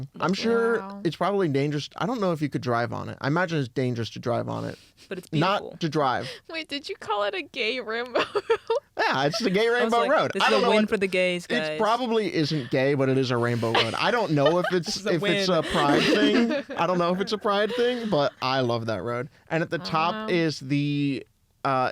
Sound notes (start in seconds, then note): 6.4 laughing; 13.9 laughs